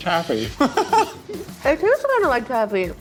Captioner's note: laughs